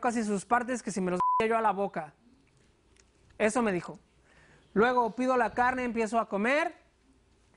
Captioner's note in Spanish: Bip